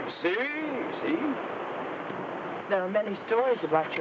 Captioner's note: speaks in foreign language